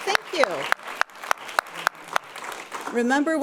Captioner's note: people clapping